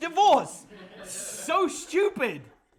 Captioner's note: students laugh